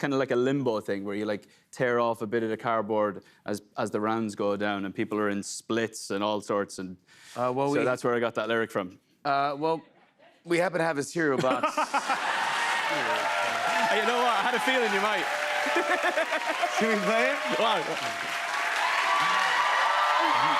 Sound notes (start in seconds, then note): 12.7 cheers and applause; 15.6 laughs; 18.2 cheers and applause